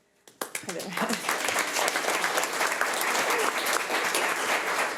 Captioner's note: audience applauds